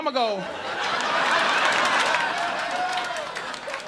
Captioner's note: audience laughing